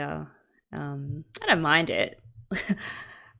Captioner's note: laughs